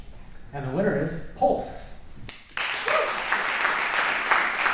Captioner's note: applause